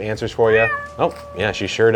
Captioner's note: cat meowing